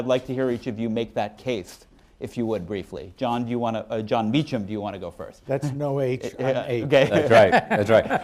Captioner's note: laughter